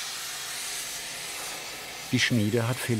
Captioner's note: hissing hissing